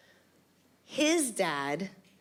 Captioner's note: none